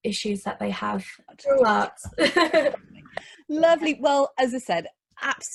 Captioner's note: laughing